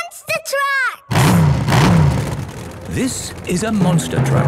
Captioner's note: engines revving